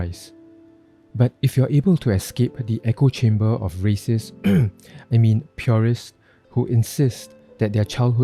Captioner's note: ahem